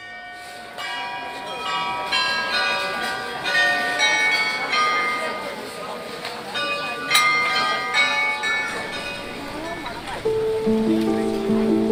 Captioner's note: bells chiming